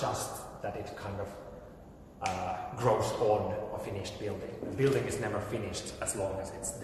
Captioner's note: snaps fingers